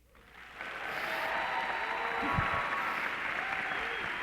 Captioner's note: clapping